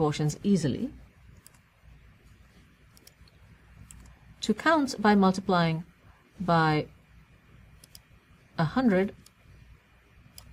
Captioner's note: pause